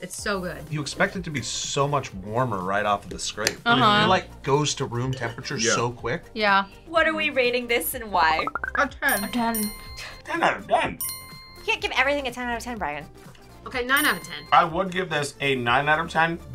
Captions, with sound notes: It's so good. - You expect it to be so much warmer right off of the scrape. - Uh-huh. - It, like, goes to room temperature so quick. - Yeah. - Yeah. - What are we rating this, and why? - A 10. - A 10. - 10 out 10! (bell chimes) - You can't give everything a 10 out 10, Brian. - Okay, nine out of 10. (bell chimes) - I would give this a nine out of 10,